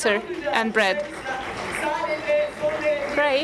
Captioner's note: applause